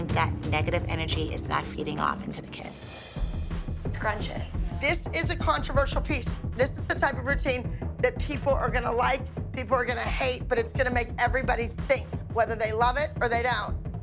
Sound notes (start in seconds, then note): none